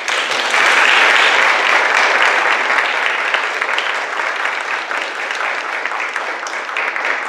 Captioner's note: audience clapping